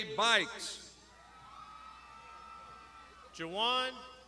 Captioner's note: crowd shouting